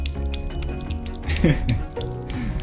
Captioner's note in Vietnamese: cười